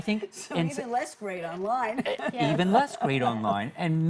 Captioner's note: laughs